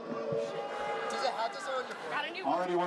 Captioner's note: audience cheers